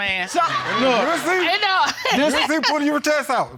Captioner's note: audience laughing